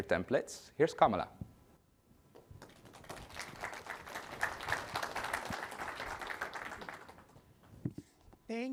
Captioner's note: applause